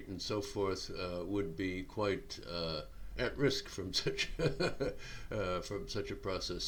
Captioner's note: chuckling